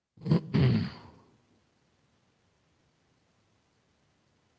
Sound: clears throat

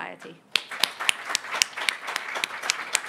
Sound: applause

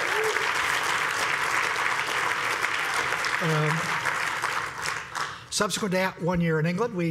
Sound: applause

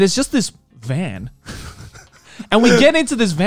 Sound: laughing

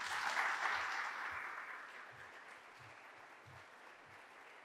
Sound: audience applauding

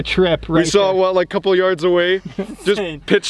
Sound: laughs

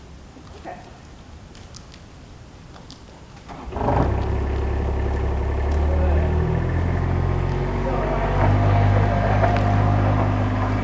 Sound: machinery

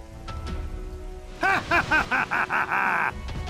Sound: laughs Evilly

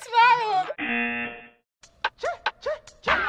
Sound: buzzer

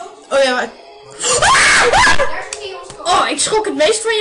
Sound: very loud scream

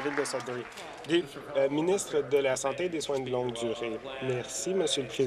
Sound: applause

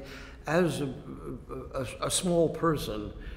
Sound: sighs

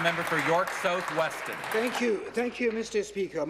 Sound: applause

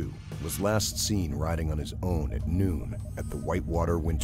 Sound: voiceover

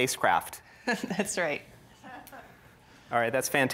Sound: audience chuckles

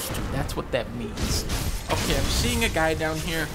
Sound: none

